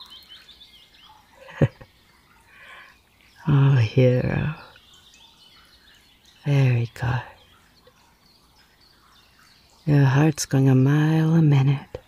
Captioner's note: laugh